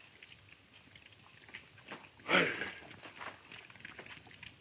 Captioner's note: fire crackling